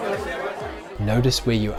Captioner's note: AUDIO: Social gathering ambient noise - 60-90 seconds